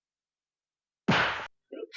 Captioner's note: smack